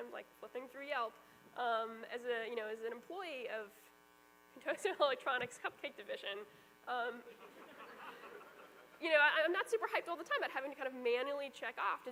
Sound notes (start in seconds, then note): 7.2 laughter